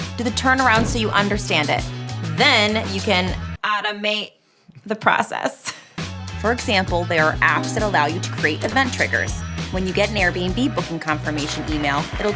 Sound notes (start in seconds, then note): 5.7 laughing; 9.4 bell dinging